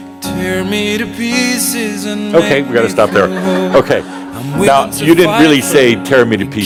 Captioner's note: some laughter